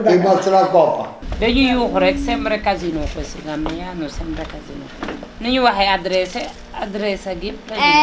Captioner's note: lady speaking Wolof